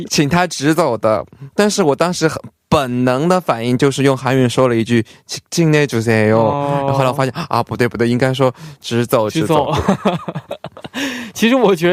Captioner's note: Korean; Mandarin